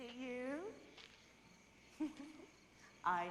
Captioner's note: fiona laughs